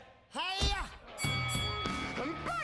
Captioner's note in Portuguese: bell dinging